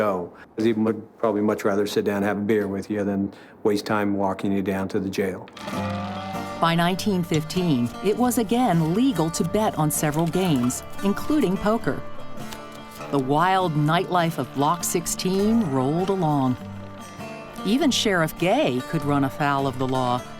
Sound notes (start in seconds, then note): 5.3 dice rolls